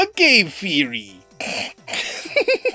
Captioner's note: big snrk